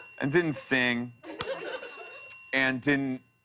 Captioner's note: ding